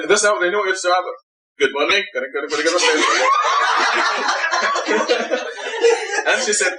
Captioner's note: imitating the Lancashire dialect